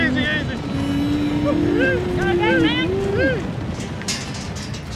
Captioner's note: shouting, hoof beats; gate clanking, shouting